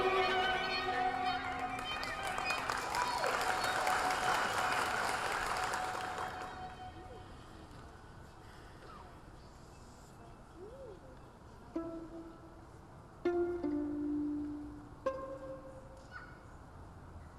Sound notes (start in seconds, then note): 3.5 audience applauding; 13.3 whimsical orchestral music